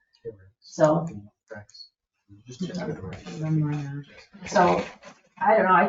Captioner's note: people speak distantly